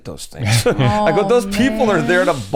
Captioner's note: chuckles